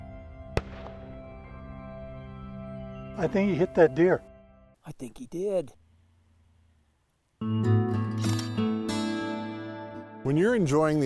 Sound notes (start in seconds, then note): 0.5 gunshot